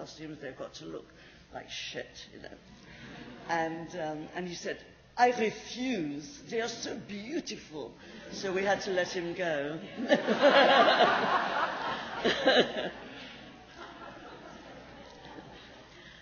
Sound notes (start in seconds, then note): 3.2 laughs; 5.1 in French accent; 14.2 laughter